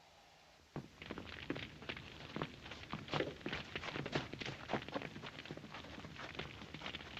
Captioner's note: flames crackling